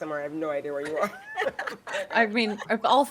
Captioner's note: people laughing